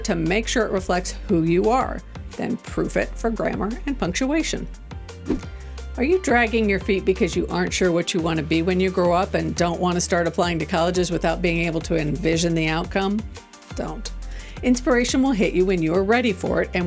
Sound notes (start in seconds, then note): 4.9 upbeat music; 5.2 transition whooshing